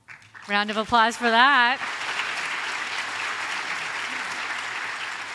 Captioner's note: audience applauds